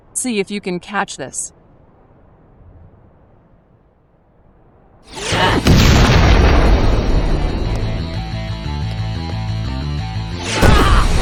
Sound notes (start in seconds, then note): 5.1 explosion booming; 5.3 wind whooshing; 6.2 dramatic music; 10.5 explosions booming; 10.7 woman yelling